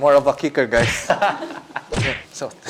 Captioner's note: laughs